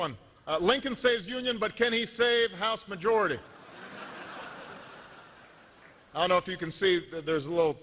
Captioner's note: laughter